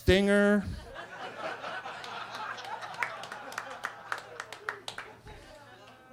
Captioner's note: attendees laughing and clapping